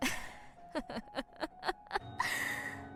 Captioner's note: laughs